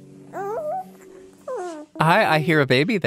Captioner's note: gurgling